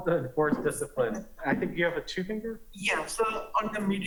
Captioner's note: laughter